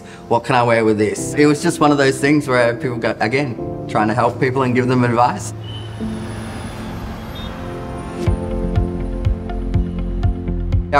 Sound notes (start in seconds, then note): 5.3 cars revving; 5.5 cars hooting; 8.1 upbeat music